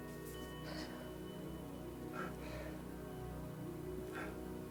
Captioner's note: all crying